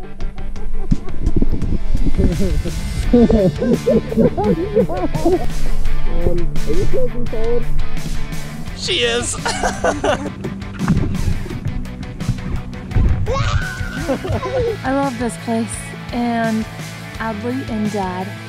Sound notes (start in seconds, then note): 0.2 couple laughing; 5.8 laughing; 9.0 laughs; 13.2 shrieks